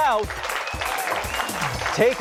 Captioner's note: applause